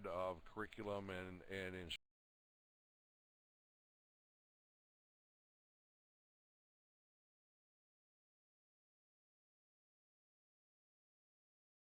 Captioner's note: audio drops